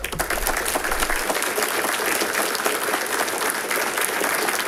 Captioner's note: audience applauding